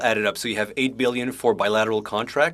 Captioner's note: speaking French